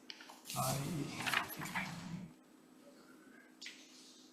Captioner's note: paper rustling